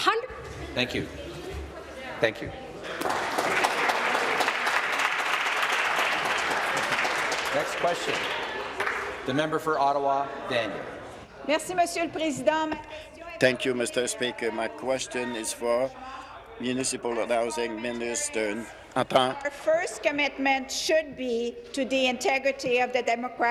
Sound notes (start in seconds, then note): 4.6 voice trailing; 7.1 applause; 14.6 speaking in French